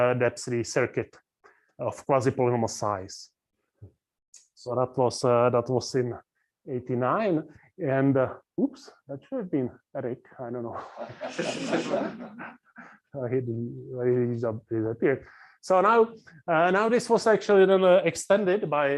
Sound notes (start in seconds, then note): 10.7 laughs